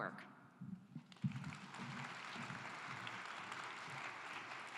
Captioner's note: claps